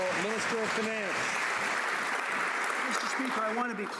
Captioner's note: some Applause